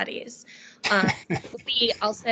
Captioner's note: laughing